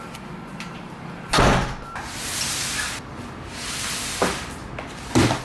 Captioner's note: door closing